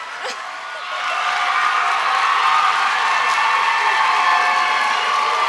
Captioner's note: applause